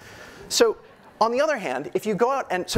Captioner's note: audience laughing